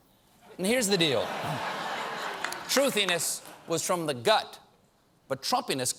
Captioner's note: laughter